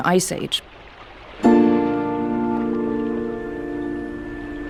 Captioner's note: bells chime